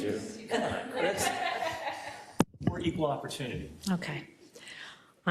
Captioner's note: laugh